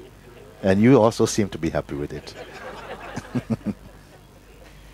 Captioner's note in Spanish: risas